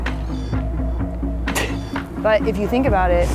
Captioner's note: laughs